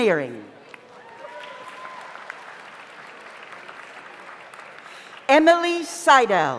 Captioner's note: audience applauds; audience cheers